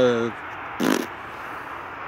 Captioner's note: fart sound